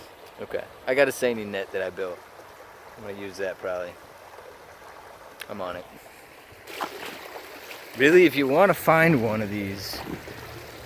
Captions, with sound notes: I’ve got a seine net I built. I’m going to use that probably. I’m on it. [ water splashing ] Really, if you want to find one of these…